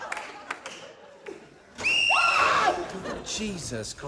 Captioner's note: laughter; whistle trills; screams